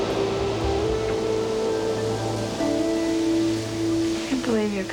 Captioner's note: sizzling